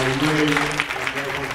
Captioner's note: applauds